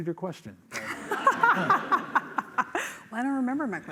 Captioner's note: laughter